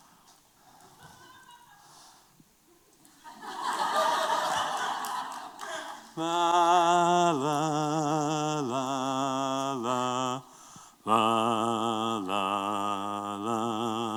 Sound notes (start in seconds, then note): 6.2 humming